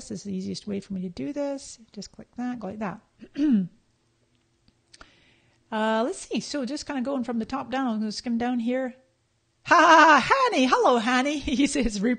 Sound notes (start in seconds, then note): 10.0 laughing